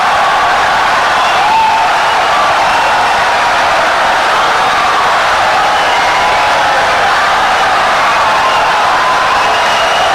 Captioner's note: wild applause and cheering for 17 seconds